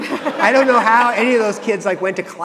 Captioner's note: audience laughing